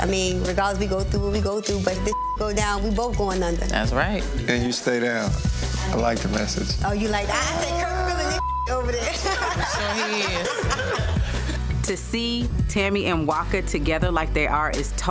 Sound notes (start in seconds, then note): 2.0 beep; 8.3 beep; 9.0 group laughing